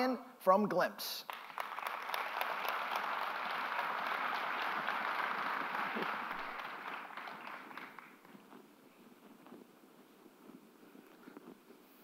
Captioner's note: applause